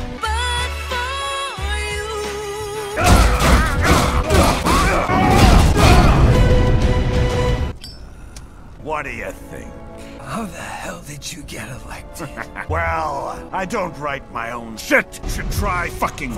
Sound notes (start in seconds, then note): 3.0 thump thump; 3.0 slamity; 4.9 bump bump; 12.0 laughs